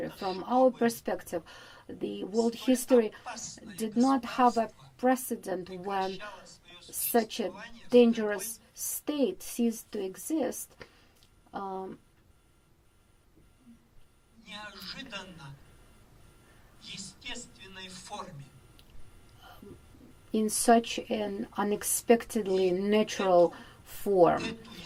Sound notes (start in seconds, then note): 14.9 speaking in foreign language